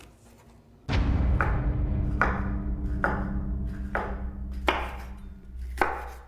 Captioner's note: ominous music; knife thumping